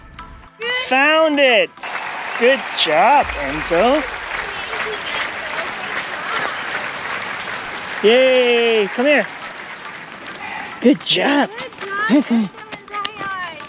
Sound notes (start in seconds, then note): 2.8 clapping